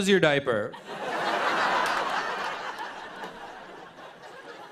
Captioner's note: laughter